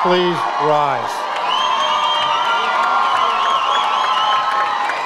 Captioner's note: audience cheers